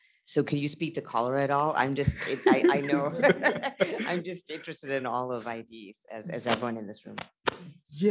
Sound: laughs

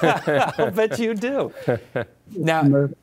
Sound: everyone laughing

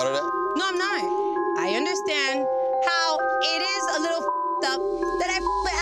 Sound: beep

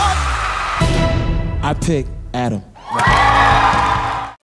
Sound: cheers and applause

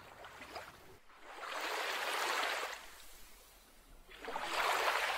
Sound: lapping waves

